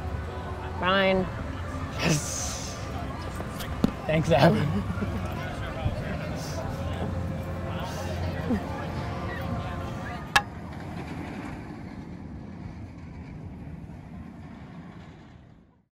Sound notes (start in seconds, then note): 2.7 theme park sounds; 4.4 laughing; 6.4 theme park sounds